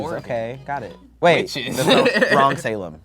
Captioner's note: laughs